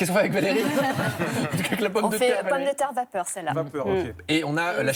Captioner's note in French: rires